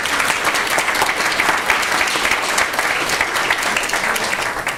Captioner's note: applause